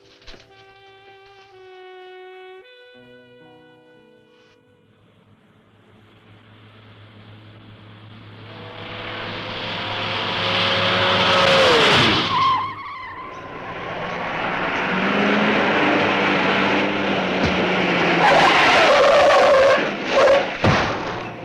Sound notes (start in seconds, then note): 9.3 engine revving; 12.3 tires screeching; 18.3 tires screeching